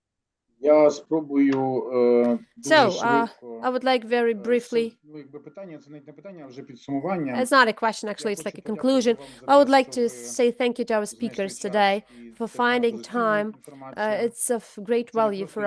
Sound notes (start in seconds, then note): 2.8 non-english speech